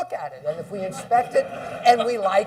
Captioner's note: laughing